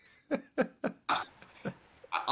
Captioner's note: laughing